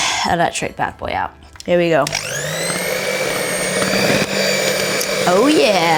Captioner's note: appliance whirring